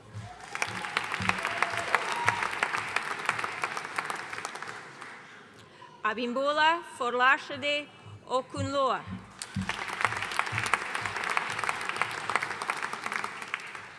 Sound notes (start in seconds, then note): 0.0 audience cheering and applauding; 9.3 audience applauding